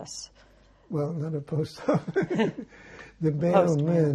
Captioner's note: laughing